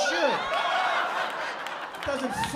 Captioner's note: laughter